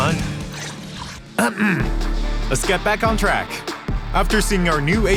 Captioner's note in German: räusper